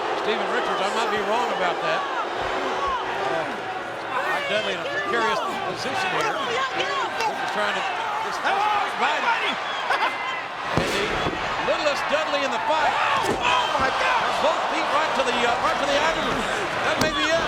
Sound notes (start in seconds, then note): 9.7 laughs; 13.2 King exclaims